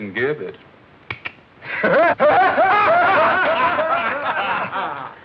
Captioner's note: laughter